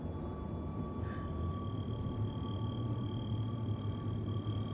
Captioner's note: whirring, scanning